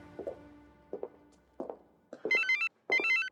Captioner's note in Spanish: suena el celular